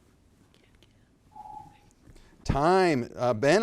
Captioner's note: timer beeps